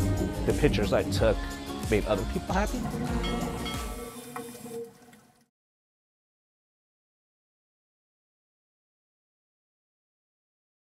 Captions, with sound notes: the pictures I took made other people happy. [Ship bell ringing] [Underwater, snorkeling sounds]